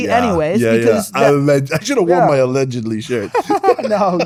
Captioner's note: laughing